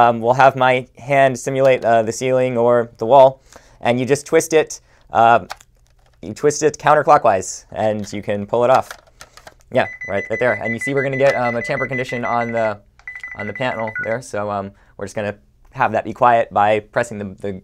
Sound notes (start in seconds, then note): 9.8 beeping